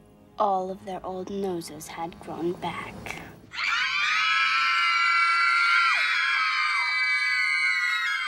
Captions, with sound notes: All their old noses had grown back. *all screaming in terror*